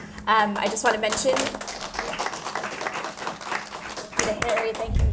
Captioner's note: audience applauding